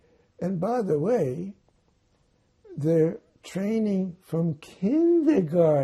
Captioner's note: none